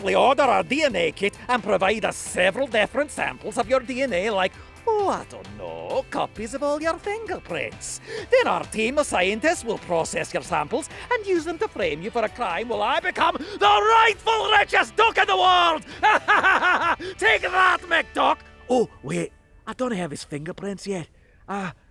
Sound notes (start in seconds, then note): 15.6 laughs